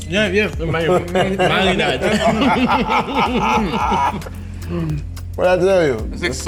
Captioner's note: everyone laughs and chatters